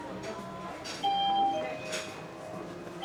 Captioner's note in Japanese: 入店チャイムの音